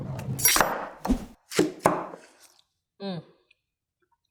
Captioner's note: knife chops